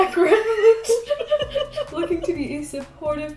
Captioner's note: girls giggling